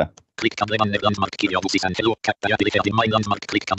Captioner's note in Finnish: ruudunlukijan puhetta